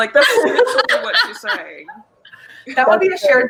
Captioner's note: laughing